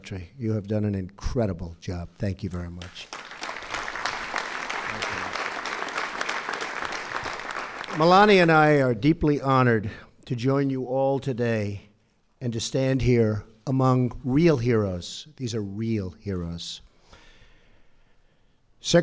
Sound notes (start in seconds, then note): 2.8 applause